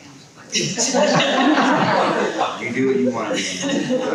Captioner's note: people laughing